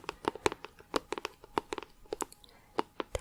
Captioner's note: tapping on plastic